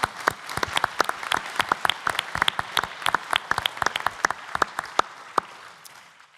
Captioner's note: applause